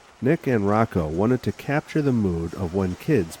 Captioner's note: voiceover